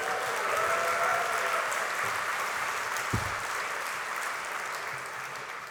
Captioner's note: applause